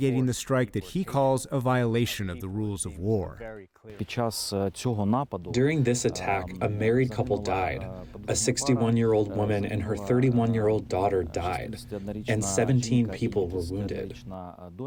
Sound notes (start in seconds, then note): 5.2 through translator